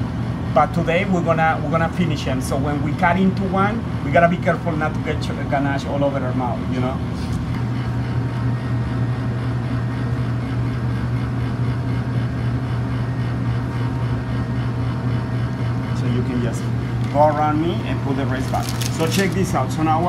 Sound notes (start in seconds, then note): 8.2 background noise from freezers, etc